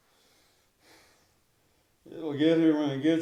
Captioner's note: Austin sighs